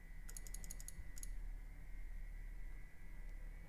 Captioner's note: clicking